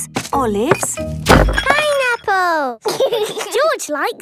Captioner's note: bangs; laughs